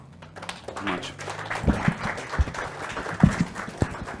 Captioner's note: applauding